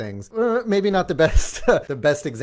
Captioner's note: laughing